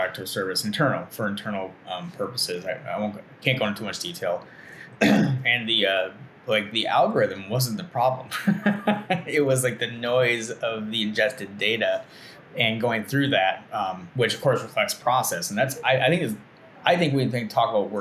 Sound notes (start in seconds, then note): 5.0 clears throat; 8.2 laughing